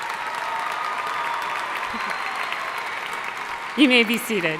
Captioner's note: audience cheering and applauding